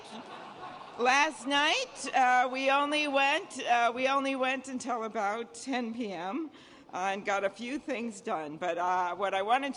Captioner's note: laughter